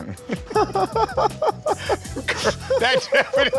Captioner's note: laughter